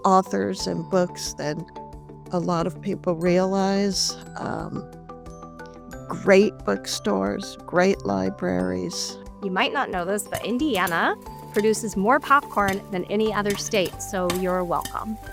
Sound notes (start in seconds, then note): 0.2 light upbeat music; 10.3 popcorn popping; 12.0 bright upbeat music